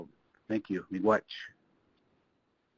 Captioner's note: speaks Ojibwe